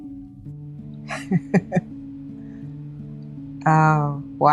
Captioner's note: laughs